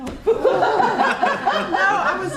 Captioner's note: laughs